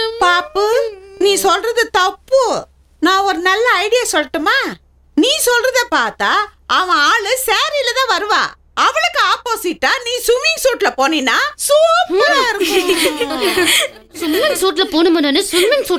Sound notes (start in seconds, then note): 12.1 laughs